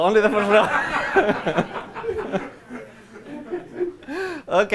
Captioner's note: laughter